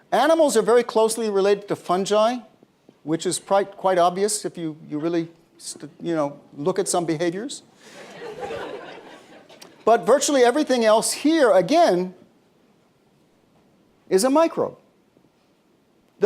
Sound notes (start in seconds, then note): 7.9 laughter